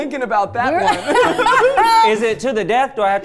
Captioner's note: laughing